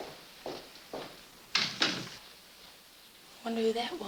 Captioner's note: door closes